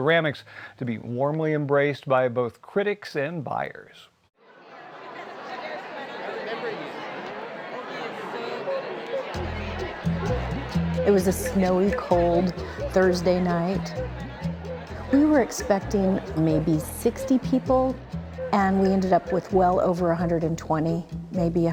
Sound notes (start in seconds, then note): 4.5 indistinct chatter; 9.4 upbeat music